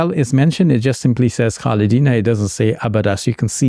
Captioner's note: speaking in Arabic